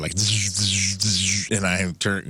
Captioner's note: zapping